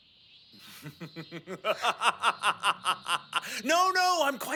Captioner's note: Okabe forces a "mad scientist" laugh